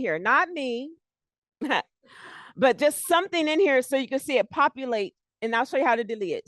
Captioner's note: chuckles